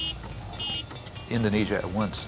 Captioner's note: horns honking